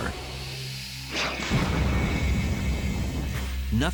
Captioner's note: explosion